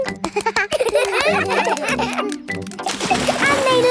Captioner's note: children laugh